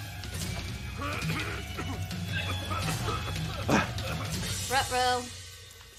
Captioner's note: coughing